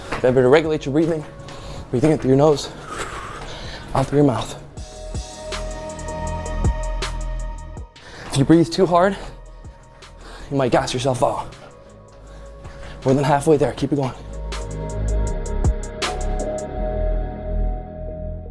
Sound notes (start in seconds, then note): 2.7 exhales deeply